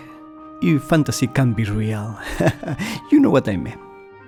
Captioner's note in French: rires